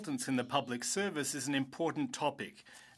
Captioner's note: speaking French